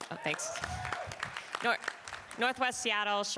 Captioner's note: applause